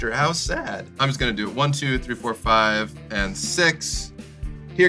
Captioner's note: counting